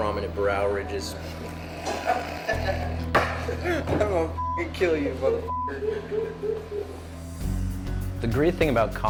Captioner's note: laughing